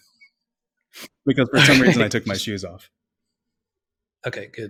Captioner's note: laughs